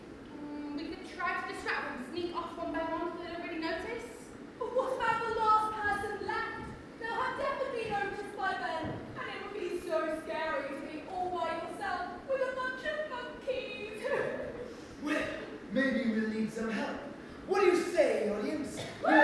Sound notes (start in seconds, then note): 14.8 cries